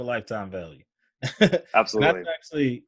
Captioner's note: laughs